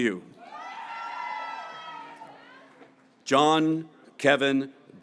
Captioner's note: graduates cheering